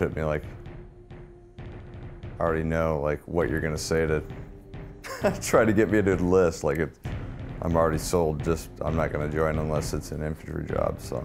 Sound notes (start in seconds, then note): 5.0 laughs